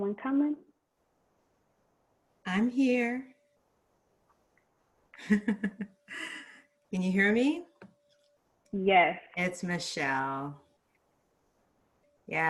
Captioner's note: laughs